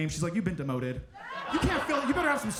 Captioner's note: audience laughing